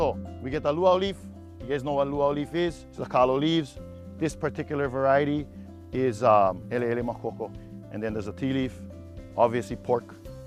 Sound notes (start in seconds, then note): 5.1 speaking Hawaiian